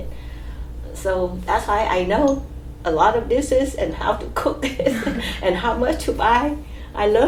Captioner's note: laughs